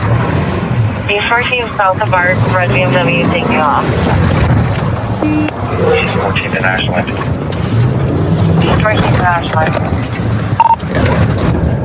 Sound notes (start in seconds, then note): 1.0 radadioio chatthatter